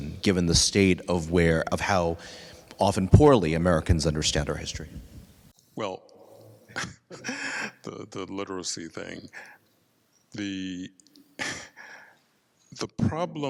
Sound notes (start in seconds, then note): 6.6 laughs